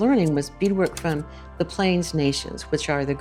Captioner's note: slide projector clicks